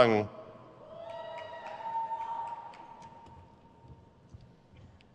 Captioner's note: crowd cheers